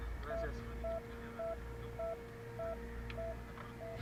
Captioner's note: heart Monitor